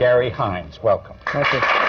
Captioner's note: applause